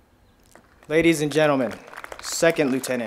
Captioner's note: crowd applauding